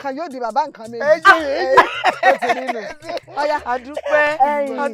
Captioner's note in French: Rires